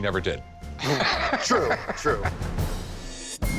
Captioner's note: Rick laughs